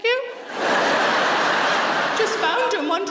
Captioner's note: audience laughing